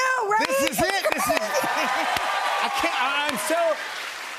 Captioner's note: cheers and applause